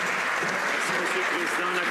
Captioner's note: some Applause